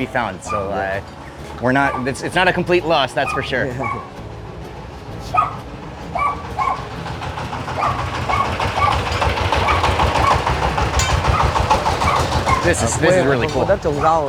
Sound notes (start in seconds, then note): 7.5 dogs Barking, Tractor Engine Sounds